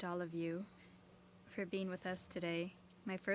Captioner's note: speaking French